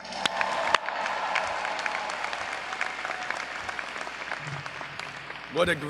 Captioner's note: audience cheering